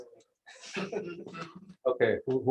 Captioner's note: laughter